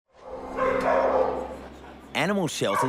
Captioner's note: barking